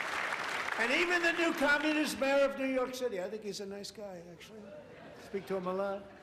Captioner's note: applause